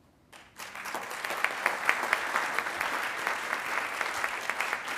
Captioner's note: attendees applauding